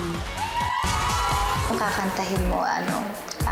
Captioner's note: audience cheering